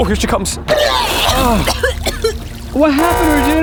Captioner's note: coughing